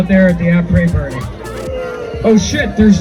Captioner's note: crowd boos